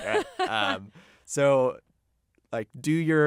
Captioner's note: laughs